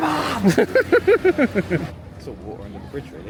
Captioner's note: laughs